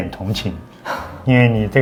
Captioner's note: sigh